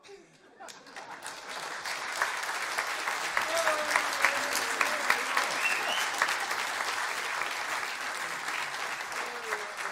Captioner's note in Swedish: applåder, visslingar